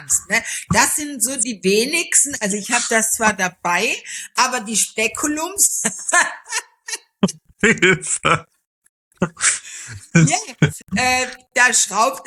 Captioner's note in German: gelächter